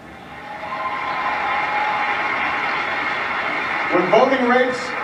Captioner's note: crowd cheers